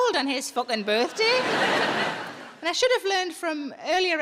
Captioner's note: audience laughing